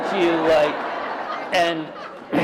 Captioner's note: laughter